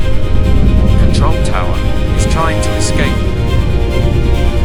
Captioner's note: intense, suspenseful music; a voice over radio; intense, suspenseful music